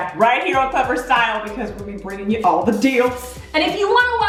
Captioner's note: whooshing